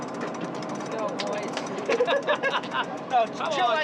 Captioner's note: laughing